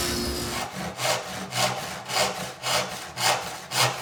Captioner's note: saw rasping